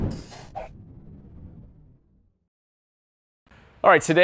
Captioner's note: air whooshing